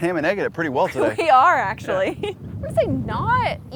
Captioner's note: laughs